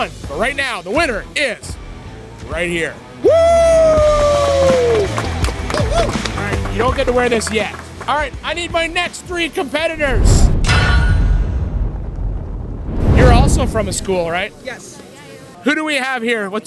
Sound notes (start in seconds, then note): 3.8 all clapping; 11.1 logo thumping